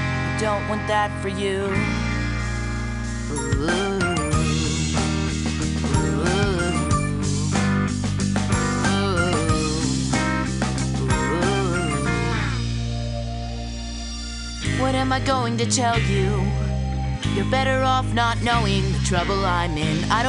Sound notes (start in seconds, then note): 3.4 phone Ringtone; 3.4 vocalizing to Ringtone